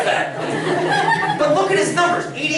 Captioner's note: laughter